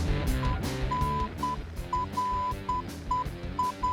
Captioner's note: phone beeping